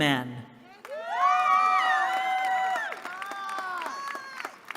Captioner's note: cheering